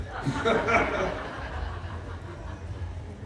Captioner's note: laughter